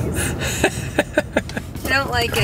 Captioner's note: narrator laughs